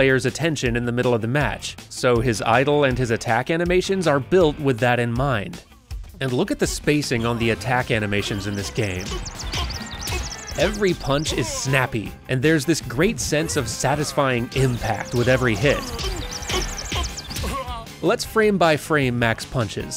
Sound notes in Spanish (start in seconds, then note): 9.5 Glass Joe gruñe y se queja; 15.3 Glass Joe gruñe y se queja más